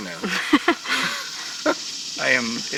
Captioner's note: laughs